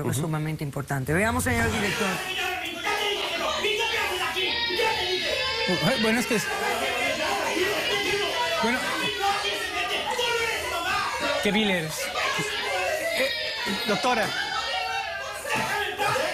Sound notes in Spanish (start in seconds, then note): 5.0 llanto; 7.9 gritos; 15.7 gritos